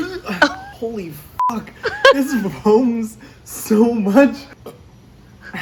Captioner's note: burbs; beep